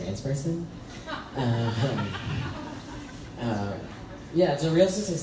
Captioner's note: crowd laughs